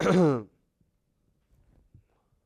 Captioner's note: cough